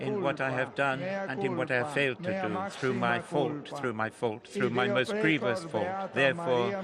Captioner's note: speaking Alternate Language